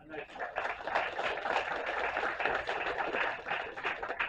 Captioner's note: applause